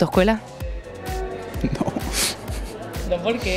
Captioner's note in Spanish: risas